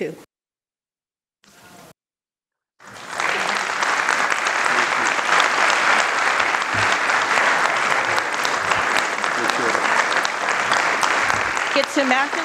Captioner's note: applause